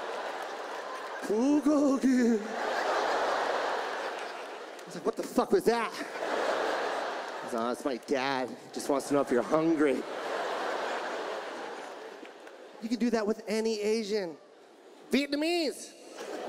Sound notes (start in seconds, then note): 1.1 imitates Korean in ghostly voice; 10.0 audience laughs; 16.0 audience laughs